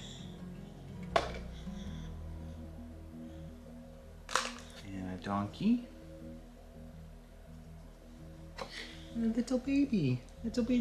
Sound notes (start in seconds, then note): 0.3 soft instrumental music; 4.3 objects hitting; 6.7 soft music